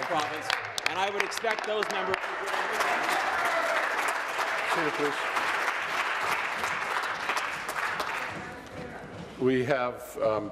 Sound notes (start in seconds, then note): 3.7 applause; 6.0 voice trailing; 8.1 applause